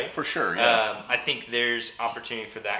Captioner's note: laughs